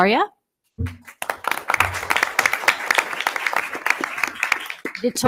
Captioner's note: audience applause